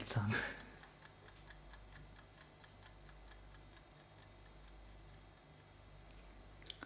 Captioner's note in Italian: il ticchettio pian piano sparisce